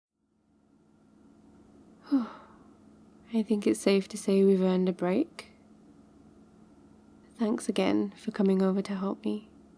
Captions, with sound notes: *sighs* I think it's safe to say we've earned a break thanks again for coming over to help me